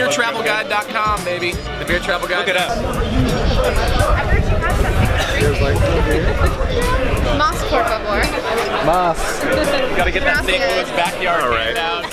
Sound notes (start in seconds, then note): 6.7 woman giggling; 8.5 giggles